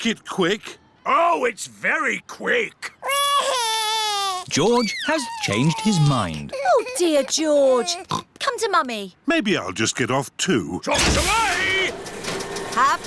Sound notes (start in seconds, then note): 3.0 crying; 7.8 oinks